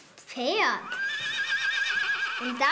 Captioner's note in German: Wiehern